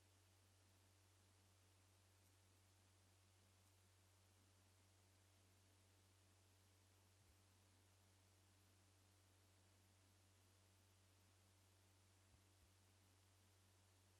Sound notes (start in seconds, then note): none